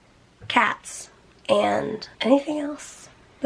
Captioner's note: none